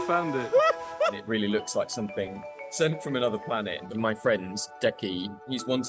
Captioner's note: crying